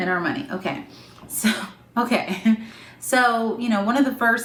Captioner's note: laughs